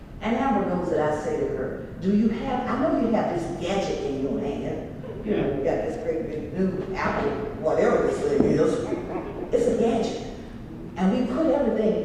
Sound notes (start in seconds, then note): 7.0 laugh